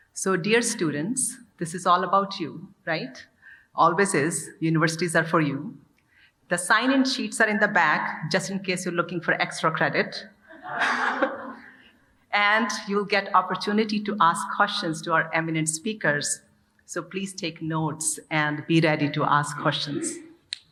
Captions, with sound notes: So, dear students, this is all about you, right? Always is, universities are for you. The sign-in sheets are in the back just in case you're looking for extra credit. (audience laughing) And you'll get opportunity to ask questions to our eminent speakers, so please take notes and be ready to ask questions.